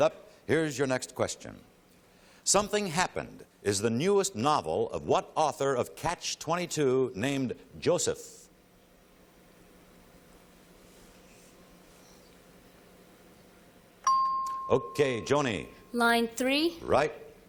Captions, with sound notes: All right, back to the board. Light it up. Here's your next question. "Something Happened" is the newest novel of what author of "Catch-22" named Joseph? [ping] OK, Joanie.